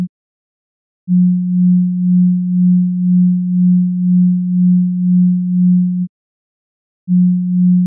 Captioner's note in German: vorsichtig